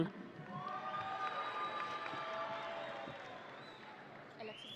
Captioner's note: audience cheering